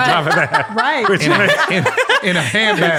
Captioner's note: all laugh